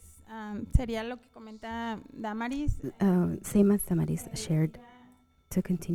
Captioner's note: panelist speaking in Spanish